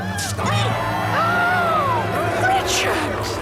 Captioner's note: gasping